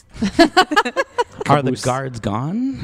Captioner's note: laughter